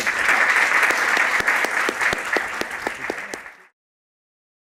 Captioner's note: applause